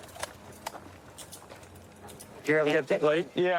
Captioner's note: handcuffs clicking